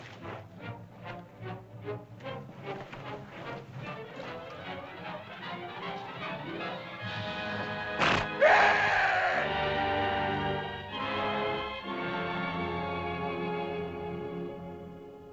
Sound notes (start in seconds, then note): 8.0 beast snorts; 8.0 Akhoba screams; 10.9 dramatic music; 15.1 ominous music